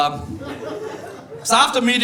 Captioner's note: audience laughing